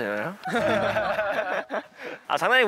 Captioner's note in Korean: 웃어요